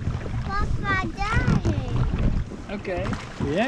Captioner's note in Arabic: يتحدث لغة أجنبية